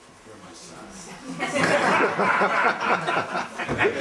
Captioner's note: laughter